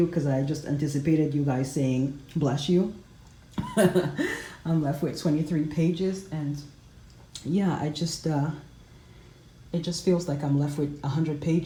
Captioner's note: chuckles